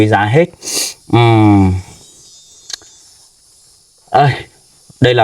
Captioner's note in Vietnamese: khịt mũi